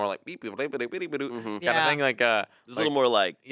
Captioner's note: imitating a robot